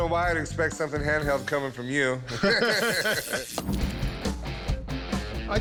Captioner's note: both laugh